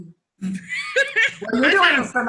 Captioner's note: laughs